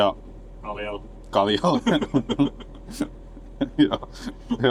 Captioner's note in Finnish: naurua